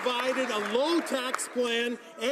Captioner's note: some Applause